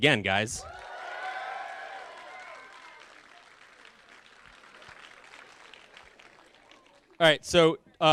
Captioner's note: cheering